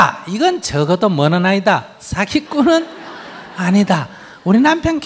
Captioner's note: audience laughter